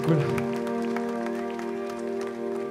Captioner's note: applause